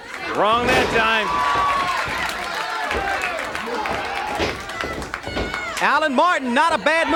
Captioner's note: audience cheering and clapping